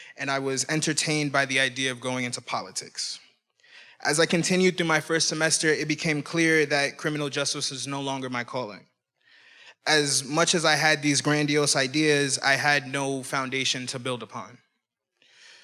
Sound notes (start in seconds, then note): none